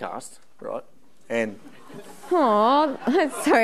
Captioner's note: audience laughing